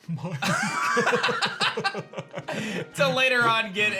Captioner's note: laughs